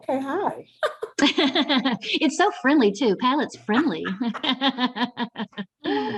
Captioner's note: laughs